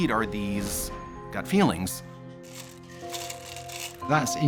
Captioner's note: go stones jingling